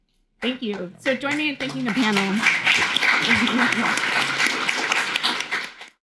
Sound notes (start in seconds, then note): 3.4 everyone applauding